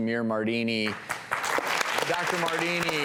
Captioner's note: applauding